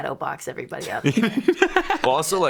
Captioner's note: laughing